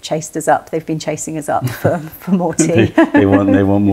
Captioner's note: laughter